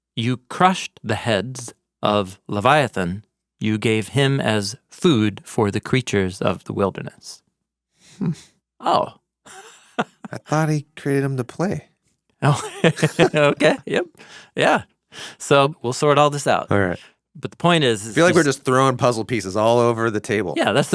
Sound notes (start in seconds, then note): 9.4 chuckles; 12.4 both chuckles